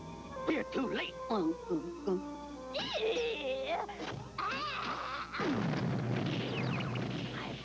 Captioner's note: explion